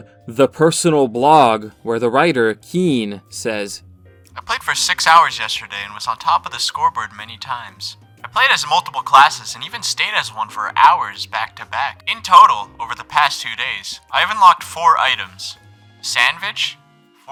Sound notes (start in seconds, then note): 4.0 with a lofi voice